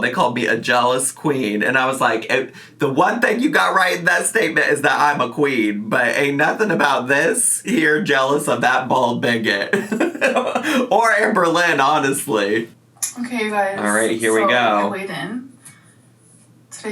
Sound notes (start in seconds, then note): 9.7 laughs